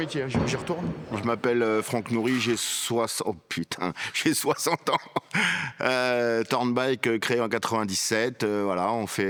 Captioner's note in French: rires